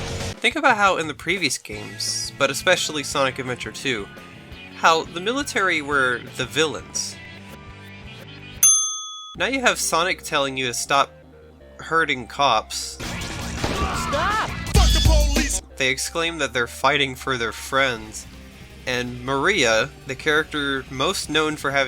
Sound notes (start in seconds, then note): 13.1 gunshot